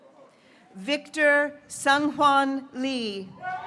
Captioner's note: graduates cheering